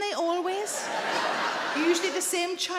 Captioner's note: audience laughing